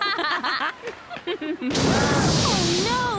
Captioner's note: laughing